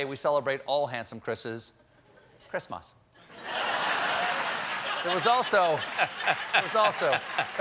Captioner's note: cheers and applause